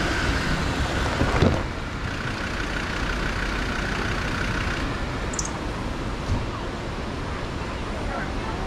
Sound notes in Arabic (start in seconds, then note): 2.0 توقف محرك السيارة